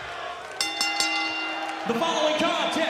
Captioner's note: bell ringing